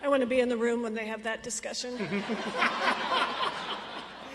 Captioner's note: audience laughs